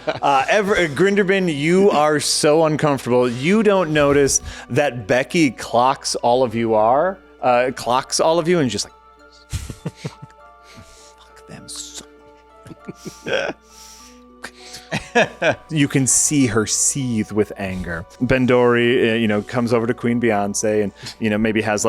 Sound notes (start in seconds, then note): 1.7 laughing; 12.5 laughing